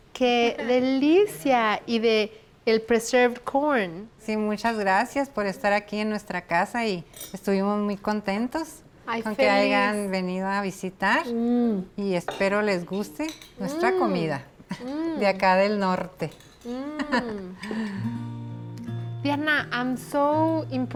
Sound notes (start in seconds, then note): 0.0 speaking Spanish; 4.3 speaking Spanish